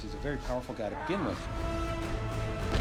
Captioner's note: grunting